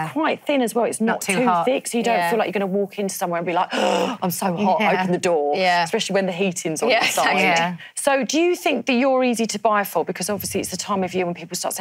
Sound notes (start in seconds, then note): 3.7 gasps